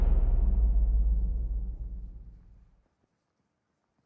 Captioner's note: atmospheric sound